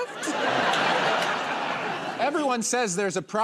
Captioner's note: laughter